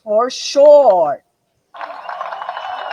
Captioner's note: audience cheers